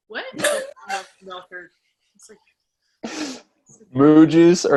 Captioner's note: laugh